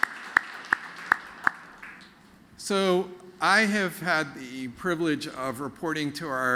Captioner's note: applause